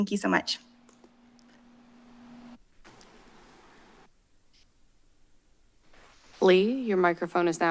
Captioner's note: silence